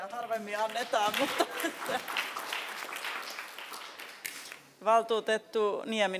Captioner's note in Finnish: aplodit